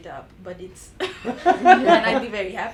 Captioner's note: laugh